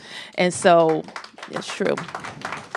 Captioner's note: applause